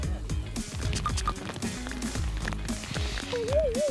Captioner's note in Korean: 파닥 파닥